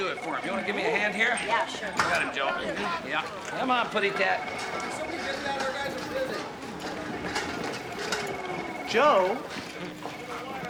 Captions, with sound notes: You want to give me a hand here? Yeah, sure. We got him, Joe. Really? Yep. Come on, putty tat. (phone ringing) MAN: Could somebody get that? Our guys are busy. Joe.